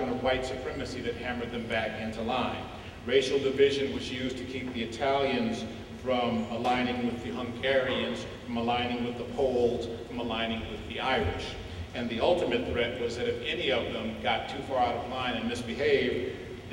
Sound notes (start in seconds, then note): none